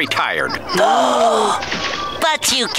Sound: gasps

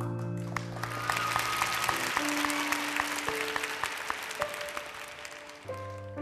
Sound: applause

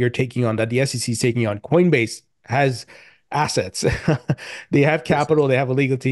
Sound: chuckles

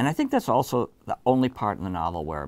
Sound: none

